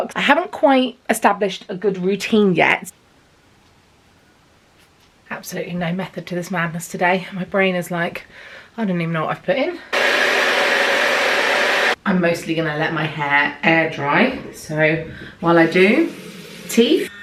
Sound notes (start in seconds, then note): 9.9 hair dryer whirring